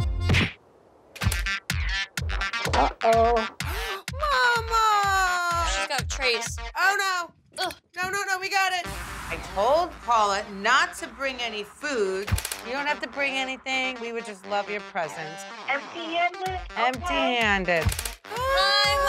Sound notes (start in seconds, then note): 0.2 comedic slapping sound; 1.7 upbeat music; 3.5 gasps